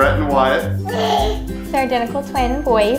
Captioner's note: baby coos